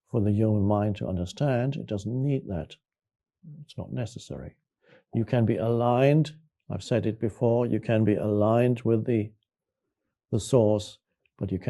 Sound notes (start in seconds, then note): none